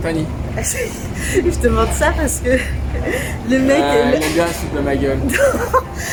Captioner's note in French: rires